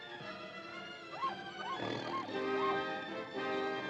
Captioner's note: ominous music; panther growls; suspenseful music; animal squawks; tiger growls; suspenseful music; tiger growls